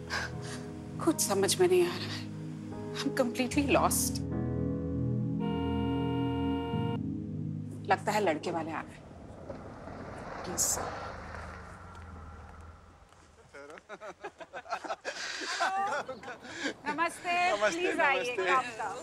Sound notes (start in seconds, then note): 5.4 Car honks; 7.7 Car approaching; 13.2 Man laughing